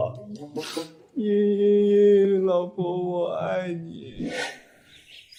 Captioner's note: sobs